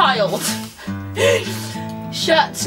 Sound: laughs

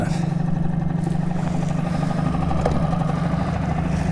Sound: boat motor hums

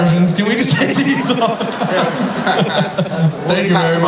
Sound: laughs

